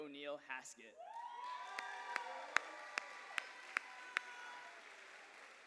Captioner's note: cheers and applause